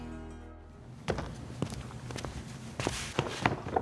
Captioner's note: footsteps